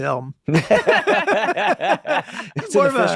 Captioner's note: all laughing